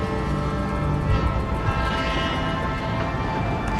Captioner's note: train chugging